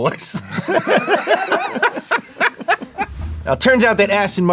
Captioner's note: laughing